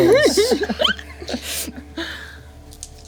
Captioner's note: laughing